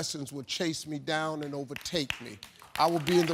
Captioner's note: audience applauding